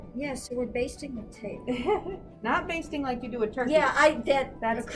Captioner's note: laughs